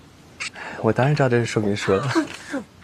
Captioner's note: laughs